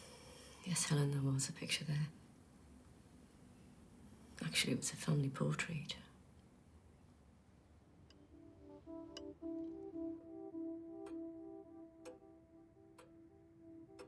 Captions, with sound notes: - Yes, Helen, there was a picture there. Actually it was a family portrait. (light music) (clock ticking)